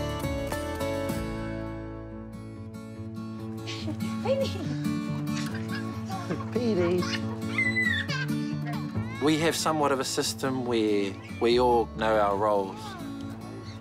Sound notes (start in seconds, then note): 3.3 light-hearted guitar music; 7.4 laughs